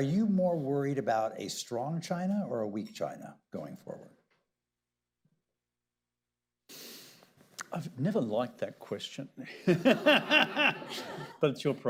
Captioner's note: laughter